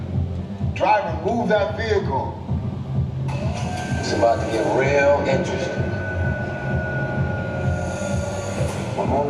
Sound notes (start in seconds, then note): 3.2 lift whirs; 6.8 upbeat music plays